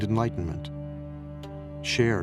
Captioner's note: none